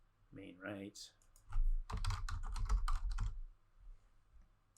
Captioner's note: keyboard clacking